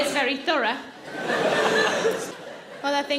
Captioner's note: audience laughing